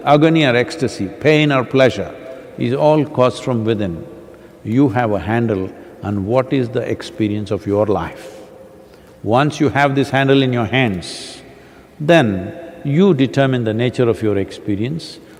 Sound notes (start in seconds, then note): none